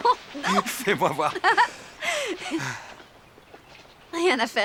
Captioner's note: laughing